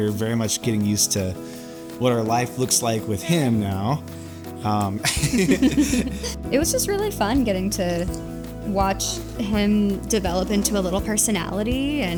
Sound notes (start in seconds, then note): 5.0 giggles